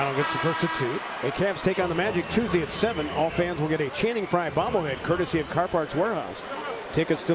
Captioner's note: crowd noise